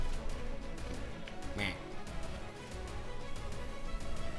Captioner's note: buck grunts